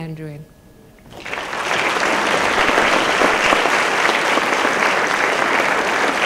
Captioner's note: applause